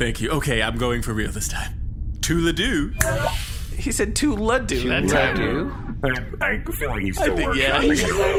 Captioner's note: snaps fingers